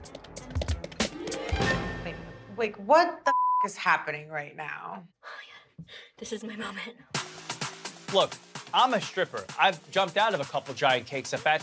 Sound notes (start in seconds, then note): 0.0 suspenseful music; 3.2 beep